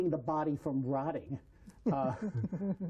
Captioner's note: laughter